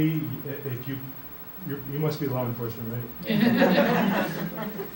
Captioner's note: laughing